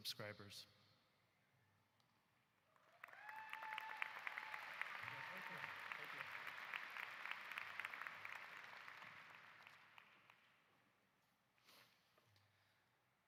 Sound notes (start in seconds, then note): 7.8 applause